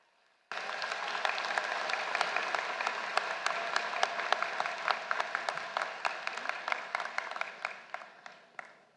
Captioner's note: applause